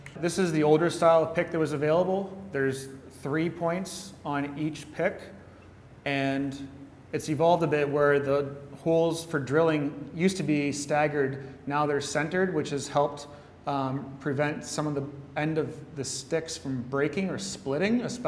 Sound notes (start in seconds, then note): none